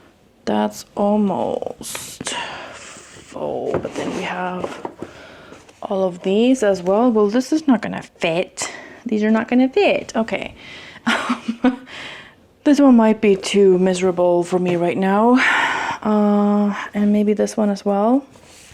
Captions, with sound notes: That's almost... full. But then we have all of these as well. Well, this is not going to fit. These are not going to fit! Okay, um... (laughing) This one might be too miserable for me right now. And maybe this one as well.